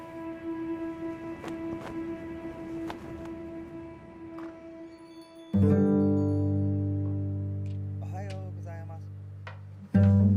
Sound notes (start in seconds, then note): 4.7 chimes Jingling; 8.0 man Speaking Japanese